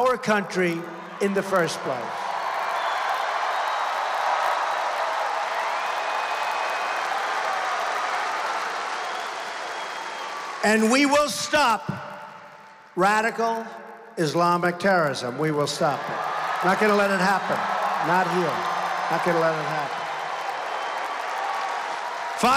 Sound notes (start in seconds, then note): 9.3 applause